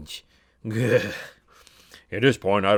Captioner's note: shudder